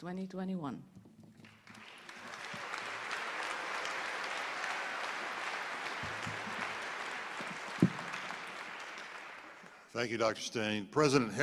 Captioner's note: applause